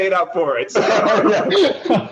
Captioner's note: laughter